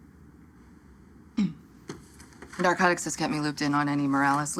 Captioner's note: clears throat